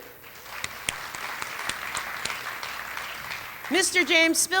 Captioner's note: applause